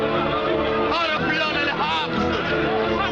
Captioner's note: Arabic